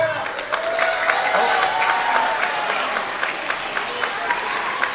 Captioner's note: everyone applauding